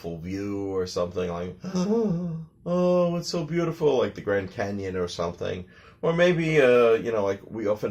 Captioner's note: gasping sound